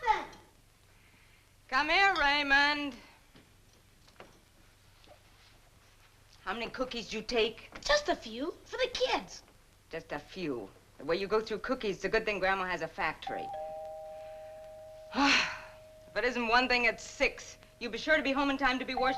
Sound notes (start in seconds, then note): 13.3 doorbell ringing; 15.4 sharp exhaling